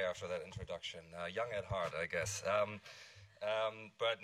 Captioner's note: all laughing